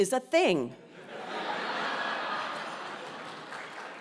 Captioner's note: laugh